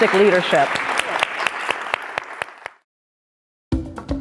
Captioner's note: applause